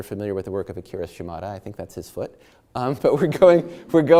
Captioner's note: chuckles